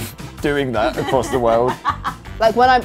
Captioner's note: laughs